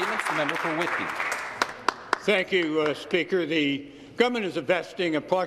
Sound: applause

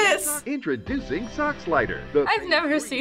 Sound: voice-over

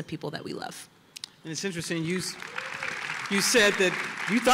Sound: applause

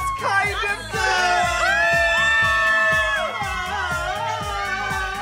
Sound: all scream

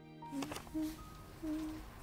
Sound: humming

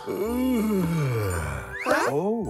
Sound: yawning; deep yawning

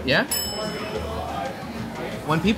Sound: bell dings

